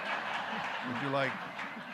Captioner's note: audience laughing